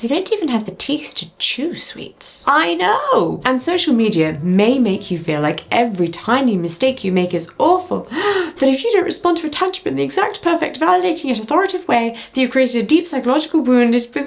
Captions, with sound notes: - They don't even have the teeth to chew sweets. - I know. And social media may make you feel like every tiny mistake you make is awful. (gasping) That if you don't respond to attachment in the exact perfect validating yet authoritative way, that you've created a deep psychological wound